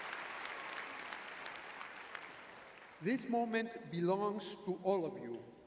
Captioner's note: audience cheering